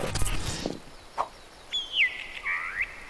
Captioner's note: birds chirping